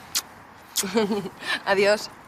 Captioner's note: kisses and laughing